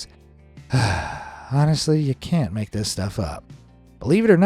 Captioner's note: sighing